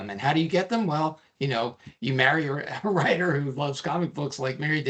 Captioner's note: chuckling